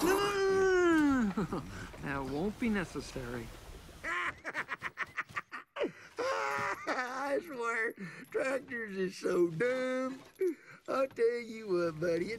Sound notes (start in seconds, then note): 4.0 laughing